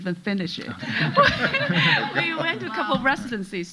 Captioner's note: audience laughing